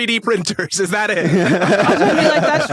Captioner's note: guys laughing